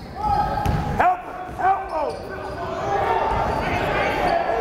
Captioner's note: yelling